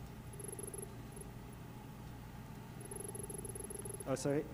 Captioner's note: text beeping